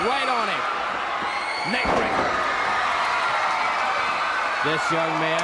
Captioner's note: crowd cheering